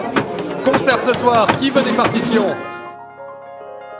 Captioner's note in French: Bruit de foule